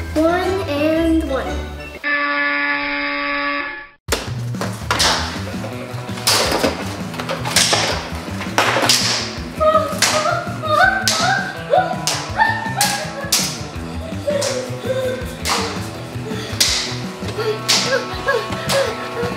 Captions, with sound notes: One and one. (buzzer noise) - Oh! Ah!